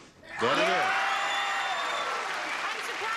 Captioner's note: cheering